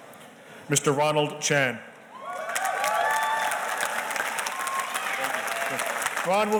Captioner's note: audience cheers and applauds